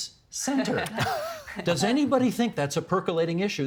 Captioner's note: laughter